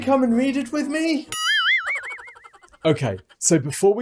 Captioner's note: cartoonish spring; cartoonish laugh